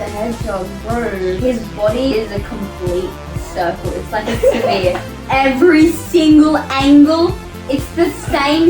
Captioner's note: laughs